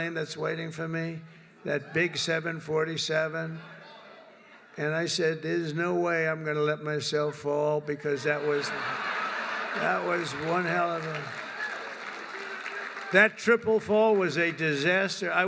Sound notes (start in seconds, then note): 8.3 laughter